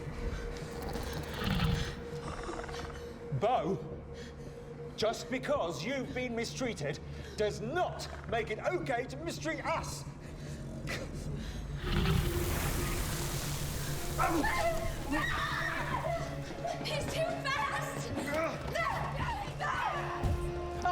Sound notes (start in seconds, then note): 0.7 dinosaur growling; 11.8 dinosaur growling; 13.9 all screaming